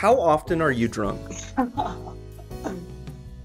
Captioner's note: laughs